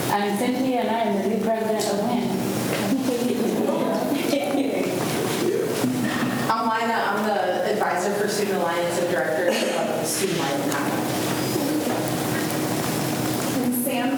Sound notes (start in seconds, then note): 0.0 faintly speaking; 3.2 students murmur; 11.9 faintly speaking